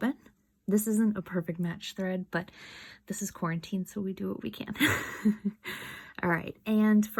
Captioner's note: soft chuckle